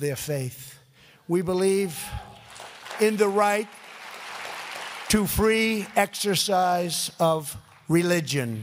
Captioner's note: applause